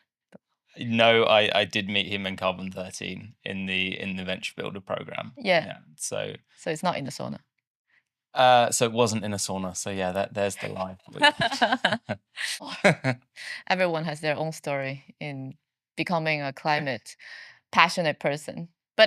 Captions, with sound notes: No, I did meet him in Carbon 13 in the Venture Builder program. Yeah. So it's not in a sauna. So it wasn't in a sauna. So yeah, there's the line. (both laughing) Everyone has their own story in becoming a climate passionate person.